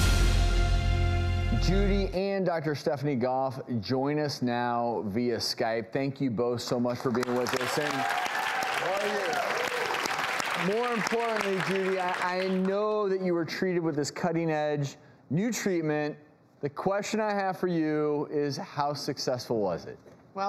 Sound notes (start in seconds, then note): 7.0 audience applause